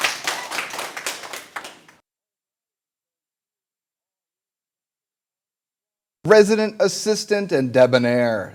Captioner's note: applause